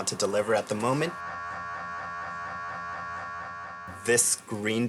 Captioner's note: MRI machine continuing to whirr